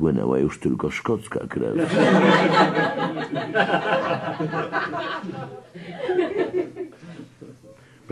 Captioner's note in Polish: śmiech